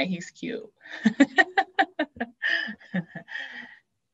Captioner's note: laughs